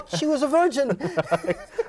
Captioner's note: laughter